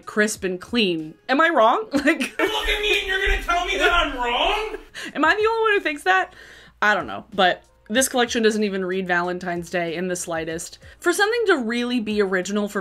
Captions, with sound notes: crisp and clean. Am I wrong? (laughs) Like, - You look at me, and you're gonna tell me that I'm wrong? - Am I the only one who thinks that? I don't know, but this collection doesn't even read Valentine's Day in the slightest. For something to really be original